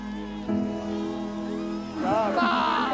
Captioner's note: crowd cheering